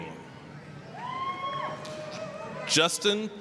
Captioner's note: applause, cheering